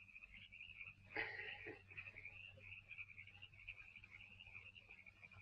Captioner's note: Foggy laughs